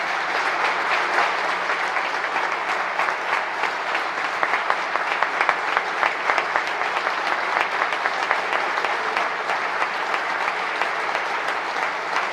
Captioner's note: applause